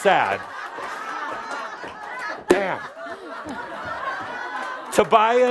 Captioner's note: lots of laughter